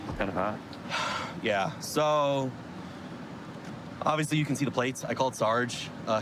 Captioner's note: sighs